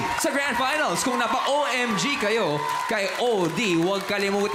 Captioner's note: crowd cheering